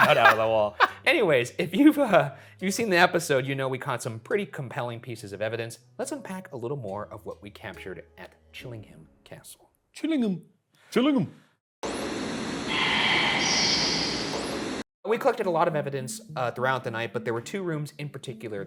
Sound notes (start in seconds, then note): 0.0 laughing; 11.7 static hissing; 12.9 ghostly Voice